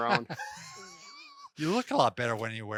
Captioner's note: laugh